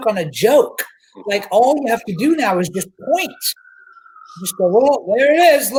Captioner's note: sirens wailing